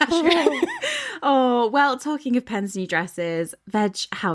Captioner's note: laughing